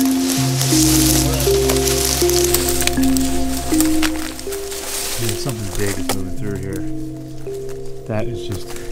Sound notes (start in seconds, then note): 0.0 vegetation rustling